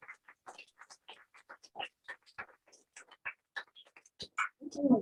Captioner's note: applause